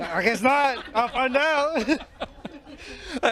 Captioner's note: laughter